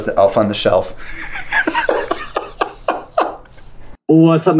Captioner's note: laughs